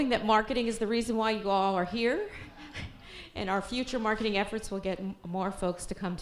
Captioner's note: chuckles